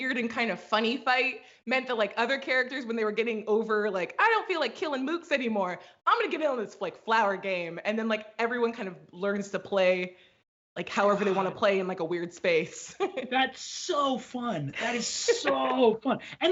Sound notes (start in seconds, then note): 13.0 laughs